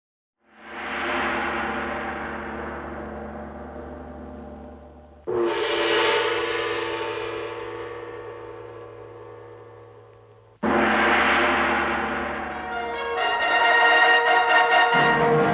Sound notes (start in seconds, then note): 5.0 gong clanging; 12.5 dramatic music